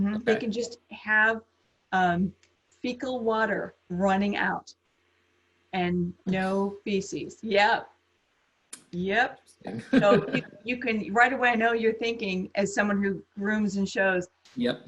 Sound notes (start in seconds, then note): 9.6 laughs